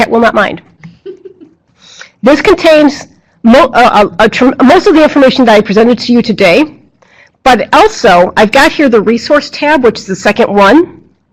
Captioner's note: laughing